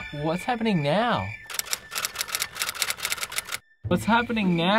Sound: typewriter keys clicking

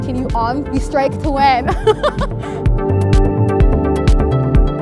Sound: laughing

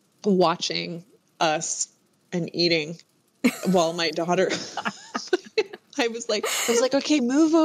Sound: laughter

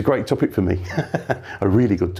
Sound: chuckles

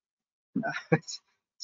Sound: laughs

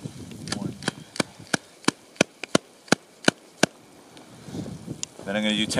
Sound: wrist tapping

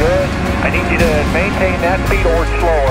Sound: dramatic orchestral music; man Over Radio

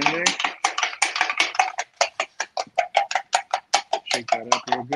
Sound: spoon churning

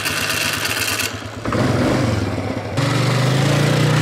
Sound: engine revving

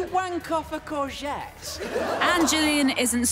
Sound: audience laughing

